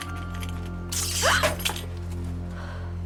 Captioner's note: sparkling